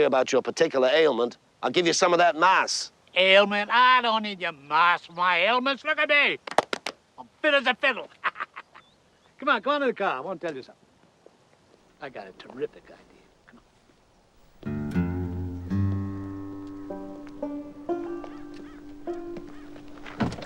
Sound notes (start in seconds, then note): 8.1 cackling; 14.4 slow bluesy music